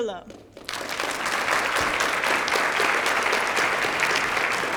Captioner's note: applause